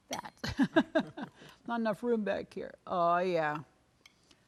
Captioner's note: laughing